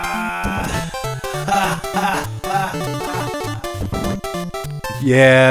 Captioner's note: funny sounding laughter